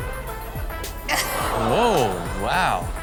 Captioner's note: Chanel laughs